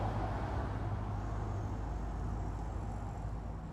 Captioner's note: cars in the distance